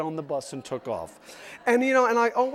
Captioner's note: audience laughs